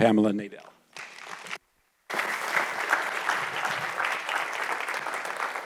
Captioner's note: audience applauds